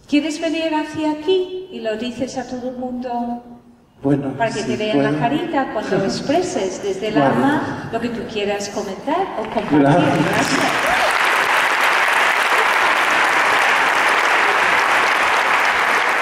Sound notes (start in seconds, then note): 9.4 applause